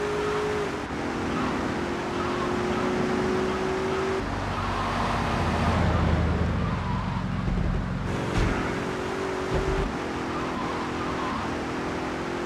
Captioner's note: plane engine roaring